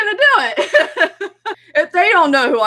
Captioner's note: laughing